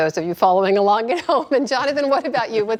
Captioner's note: laughter